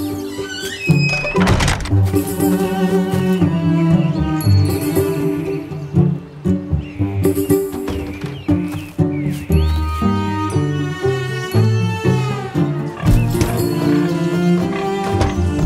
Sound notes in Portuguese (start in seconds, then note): 0.0 Pássaros; 0.1 Porta rangendo e fechando; 12.7 Porcos grunhindo; 15.4 Pássaros